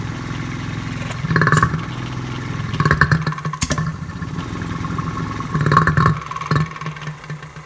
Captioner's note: pump gurgles